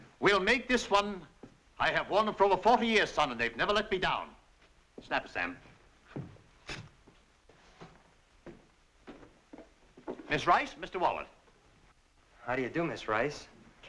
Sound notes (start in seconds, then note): none